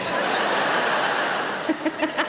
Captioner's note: audience laughing; Sarah laughing